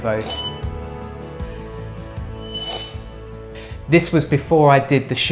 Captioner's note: shutter sounding